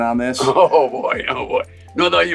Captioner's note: chuckling